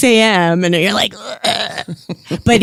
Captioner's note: chocking sound